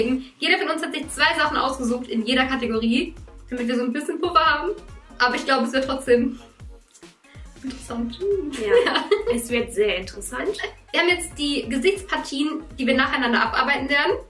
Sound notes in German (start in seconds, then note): 8.5 lacht